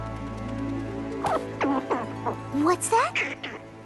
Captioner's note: chittering